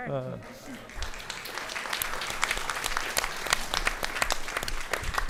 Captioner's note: audience applauding